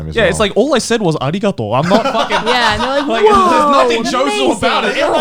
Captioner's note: speaks japanese